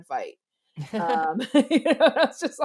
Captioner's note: both laugh